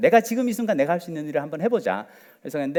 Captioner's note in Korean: none